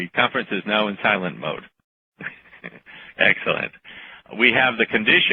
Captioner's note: chuckle